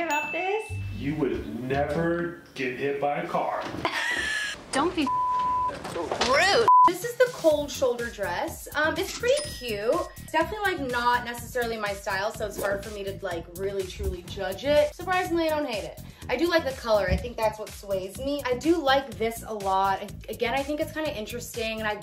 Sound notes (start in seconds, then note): 3.8 laughing; 5.0 beeping